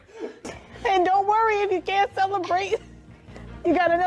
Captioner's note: laughing